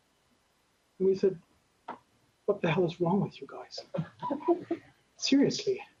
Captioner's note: laughter